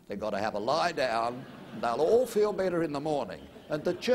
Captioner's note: laughter